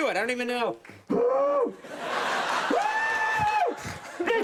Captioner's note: screaming